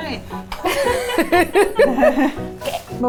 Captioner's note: people laughing